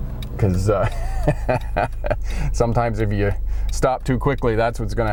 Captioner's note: laughs